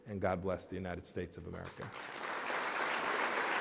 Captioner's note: applause